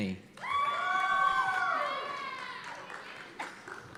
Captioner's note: cheers and applause